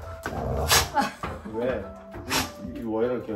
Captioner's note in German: Leises Knurren